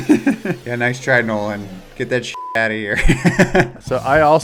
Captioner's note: beep